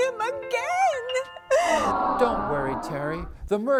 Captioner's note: aaahhh!